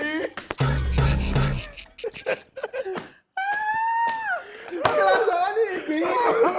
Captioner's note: everyone laughs